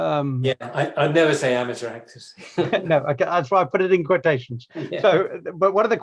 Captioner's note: laughs